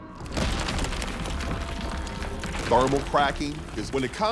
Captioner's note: concrete cracking